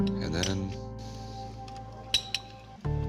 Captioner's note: clinks